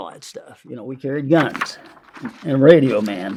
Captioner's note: paper crinkling